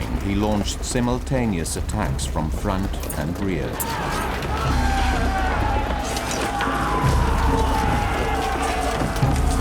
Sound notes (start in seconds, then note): 3.7 soldiers shouting; 3.9 swords clanging